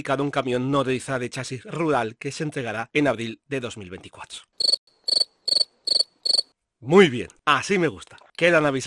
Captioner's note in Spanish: sonido de grillos